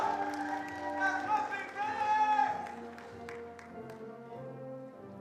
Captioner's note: attendees cheering and applauding; attendee cheering